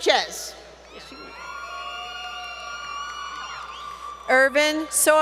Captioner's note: crowd Cheering